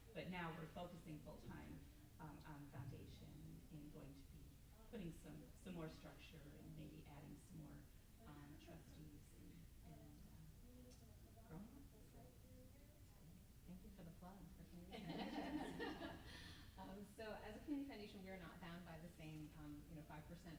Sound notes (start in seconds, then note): 14.9 group laughs